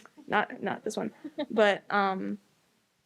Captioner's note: laughter